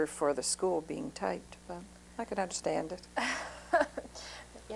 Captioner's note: laughter